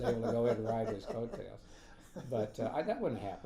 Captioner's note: laughing